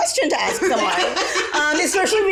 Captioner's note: all laugh